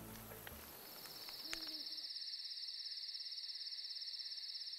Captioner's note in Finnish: öisen metsän ääniä